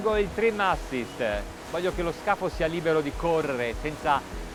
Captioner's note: speaking in foreign language